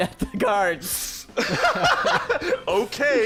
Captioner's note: laughing